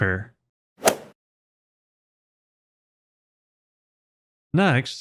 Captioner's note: golf ball hit sound effect